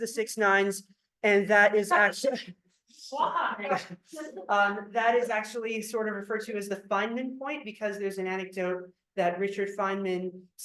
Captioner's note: laughter